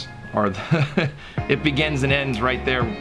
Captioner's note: laughs